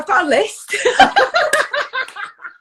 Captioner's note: laughs